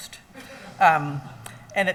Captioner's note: laughing